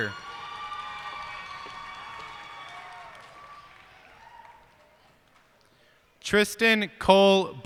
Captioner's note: cheers and applause